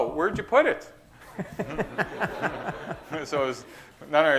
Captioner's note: laughter